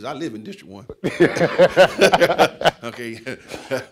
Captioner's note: laughing